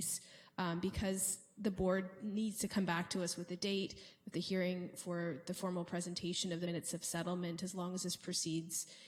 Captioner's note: none